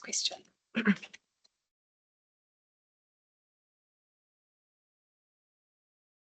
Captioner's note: participant clears throat